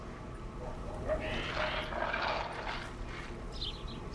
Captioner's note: dog food ratting in bowl